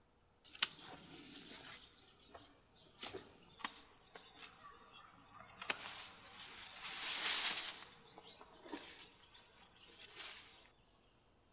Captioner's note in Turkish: makasla dalı kesince çıkan ses, dal hışırtıları ve kuş sesleri